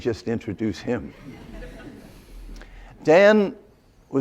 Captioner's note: laughter